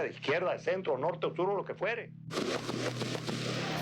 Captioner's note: gunfire